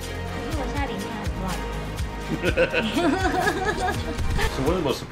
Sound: boss laughs

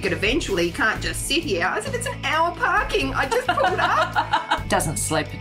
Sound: laughs

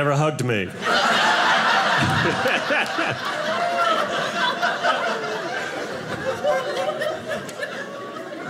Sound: audience laughing

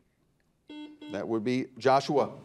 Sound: buzzer dings

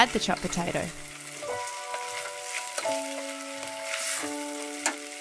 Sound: pan sizzles

